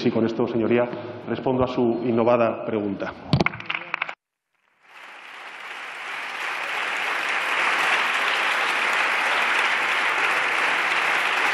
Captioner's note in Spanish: Aplausos